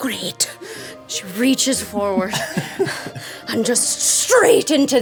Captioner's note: everyone laughing